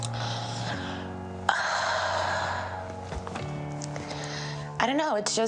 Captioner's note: sighs